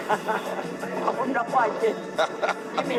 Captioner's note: laughing